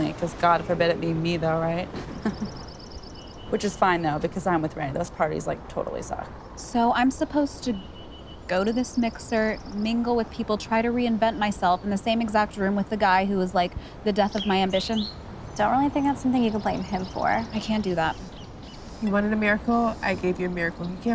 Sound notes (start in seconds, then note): 1.8 chuckles